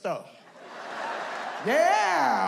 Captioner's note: audience laughs